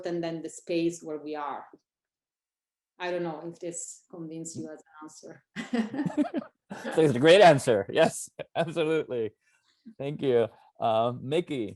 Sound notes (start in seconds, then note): 5.6 laughs